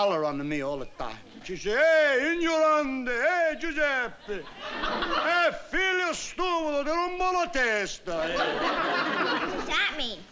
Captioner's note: speaking italian